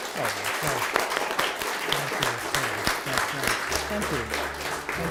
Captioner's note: applause